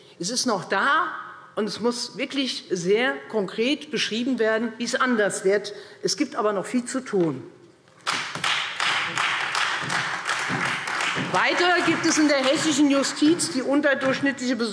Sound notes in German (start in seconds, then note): 8.0 Beifall Freie Demokraten und vereinzelt SPD